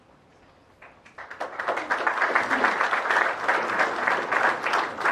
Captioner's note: applause